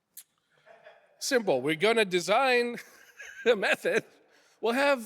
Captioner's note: laughs